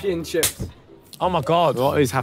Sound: hand slaps

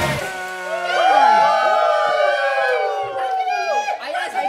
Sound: cheer

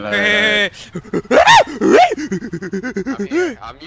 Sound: monkey noises

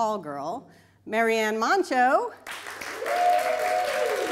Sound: applause

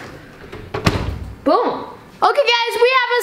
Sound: oven door closes

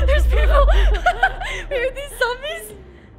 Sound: laughing

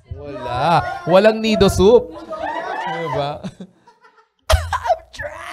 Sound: laughter

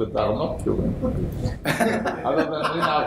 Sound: laughter

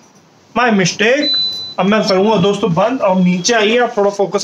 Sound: beep

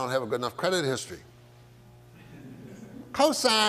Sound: audience laughs

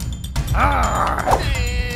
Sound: growl!

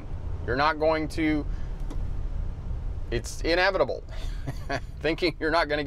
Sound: giggles

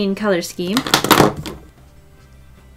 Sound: markers crash on desk

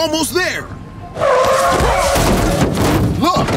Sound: tires screeching

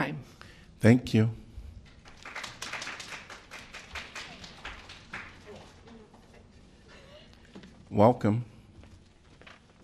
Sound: applause

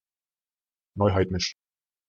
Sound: fast Pronunciation

